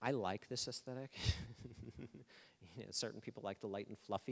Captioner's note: laughing